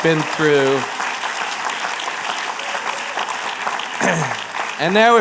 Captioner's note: applause